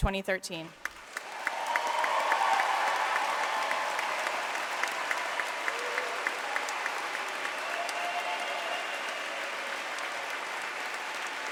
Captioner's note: applause